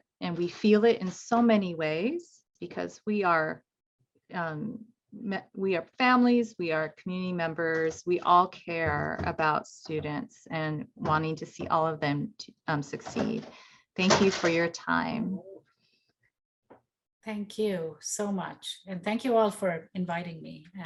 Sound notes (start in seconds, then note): 9.8 footsteps thumping; 16.3 box thuds